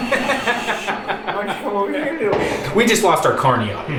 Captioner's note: laughs